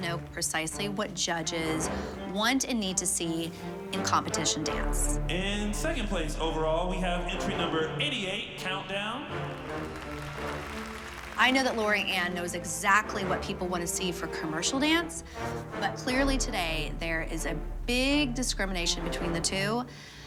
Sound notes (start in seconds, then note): 9.0 applause and cheering